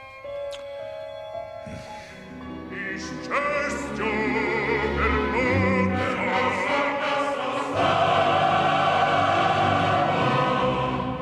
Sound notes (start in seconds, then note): 1.6 menghela napas; 2.6 pria bernyanyi secara opera